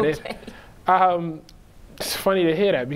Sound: laughing

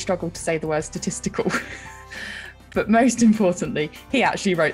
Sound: laughs

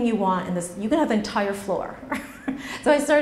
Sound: laughs

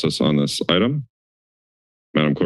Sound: silence

